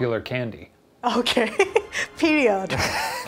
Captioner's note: laughs